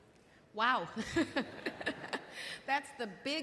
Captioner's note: laughs